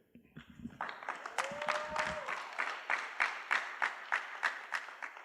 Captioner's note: applause